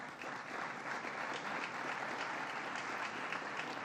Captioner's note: applause